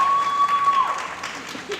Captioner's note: applause